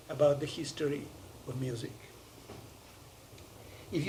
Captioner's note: none